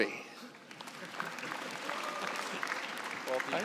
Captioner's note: applause